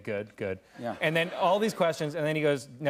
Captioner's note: laughter